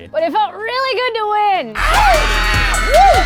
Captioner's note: cheering